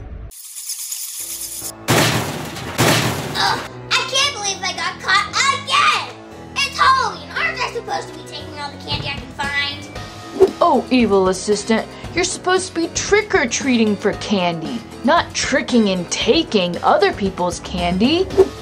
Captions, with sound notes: (bats flying) (bangs door) - Ugh! I can't believe I got caught again! It's Halloween, aren't I supposed to be taking all the candy I can find? - Oh, Evil Assistant, you're supposed to be trick or treating for candy, not tricking and taking other people's candy.